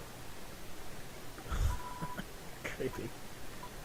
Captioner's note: chuckling